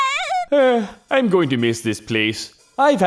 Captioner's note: sigh